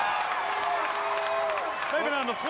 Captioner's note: crowd cheering